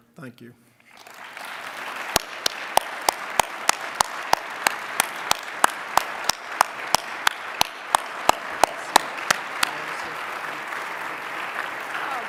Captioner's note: applause